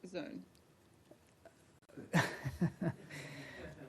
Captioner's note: laughter